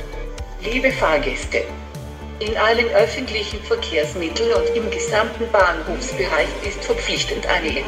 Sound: corona virus announcement in german

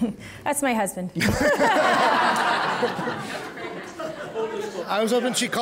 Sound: audience laughing

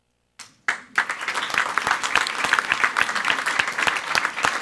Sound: everyone applauding

